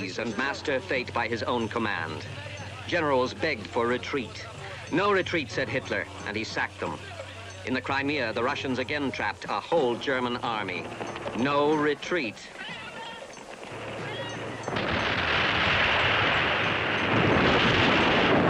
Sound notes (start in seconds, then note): 14.6 artillery booming